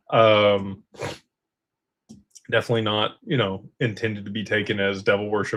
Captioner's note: snorts and clears throat